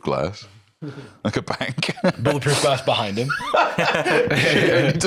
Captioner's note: laughs